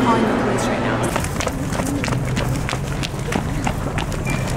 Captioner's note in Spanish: pasos fuertes